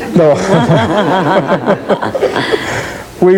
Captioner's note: laughs